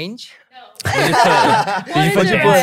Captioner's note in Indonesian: tertawa